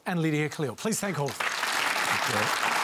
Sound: applause

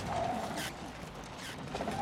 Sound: car creaking

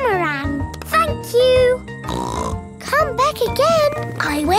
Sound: snorts

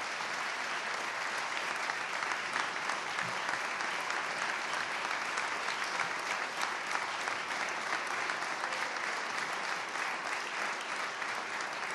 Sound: applause

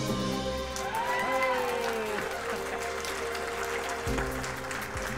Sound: crowd applauding

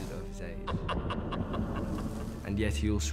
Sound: laughing

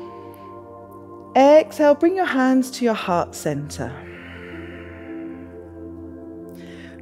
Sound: inhales; exhales

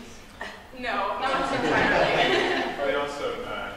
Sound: laughter

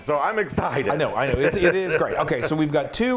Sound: laugh

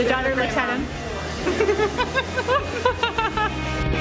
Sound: laughs

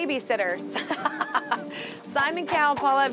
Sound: laughter

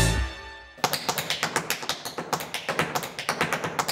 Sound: jazz music; shoes tapping

